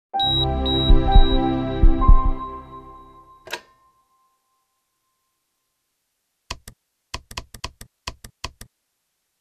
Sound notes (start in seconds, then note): 0.2 inspiring music; 0.2 ECG beeps; 3.4 phone clicks; 7.1 keypad clicks